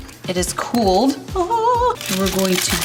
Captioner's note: vocalizes